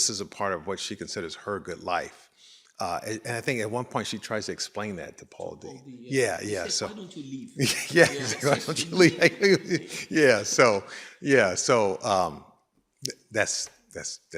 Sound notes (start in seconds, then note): 10.1 laughing